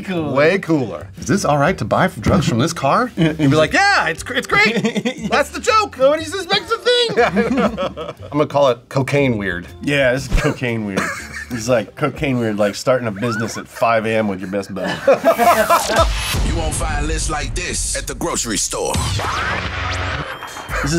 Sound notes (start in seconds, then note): 6.4 both laugh; 14.1 both laugh; 19.0 techno music